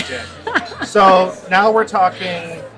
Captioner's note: laughs